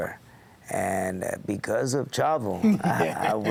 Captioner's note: laugh